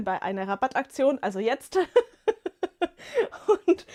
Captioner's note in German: gelächter